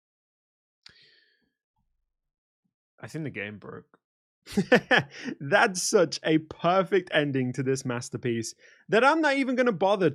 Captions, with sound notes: I think the game broke... *laughs* That's such a PERFECT ending to this masterpiece that I'm not even going to bother